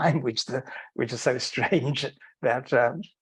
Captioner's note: chuckling